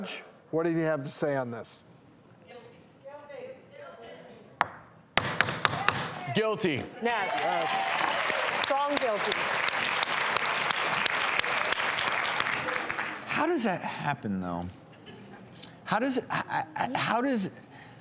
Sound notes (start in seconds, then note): 5.2 gavel banging; 7.1 audience clapping